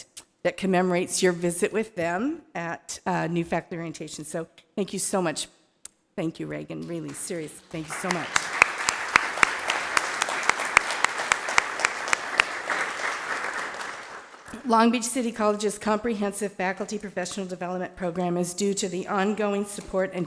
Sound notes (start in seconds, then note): 8.6 applause